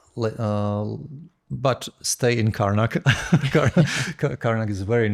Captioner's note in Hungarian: nevetés